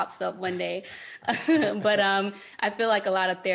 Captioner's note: laughing